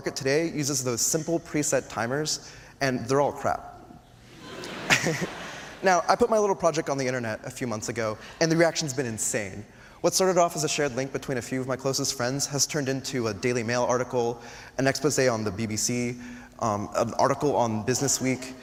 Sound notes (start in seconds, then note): 4.3 laughter